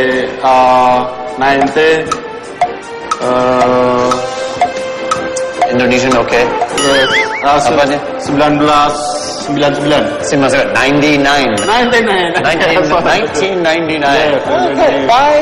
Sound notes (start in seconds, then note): 3.5 clock ticking; 7.6 non-english speech; 12.0 laughs